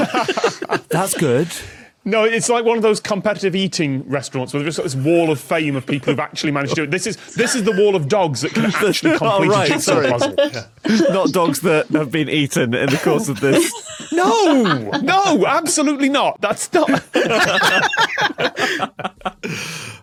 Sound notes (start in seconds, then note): 0.0 gasps; 0.0 others laughing; 12.8 laugh; 16.3 group laughing